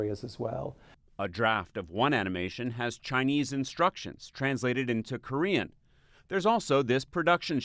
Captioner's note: voice-over